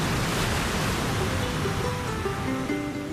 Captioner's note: ocean waves crashing